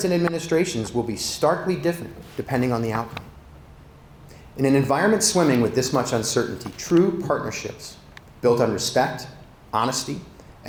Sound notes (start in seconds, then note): none